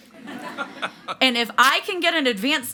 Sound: audience laughs

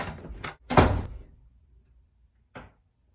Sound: slam

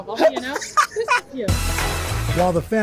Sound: laughter

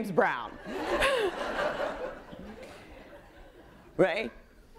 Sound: audience laughing

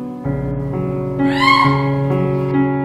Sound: horrific scream

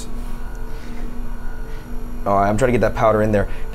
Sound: machine whirring continues

